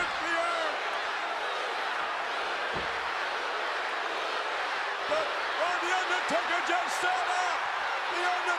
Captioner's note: applause